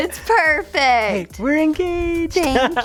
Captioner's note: laughs